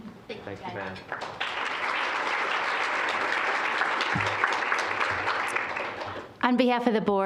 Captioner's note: applause